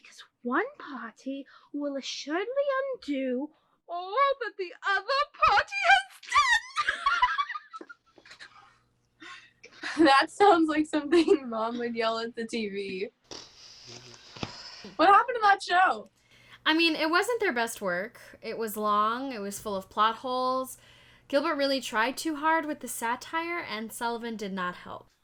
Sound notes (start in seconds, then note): 6.6 laughs; 13.3 exhales through her mouth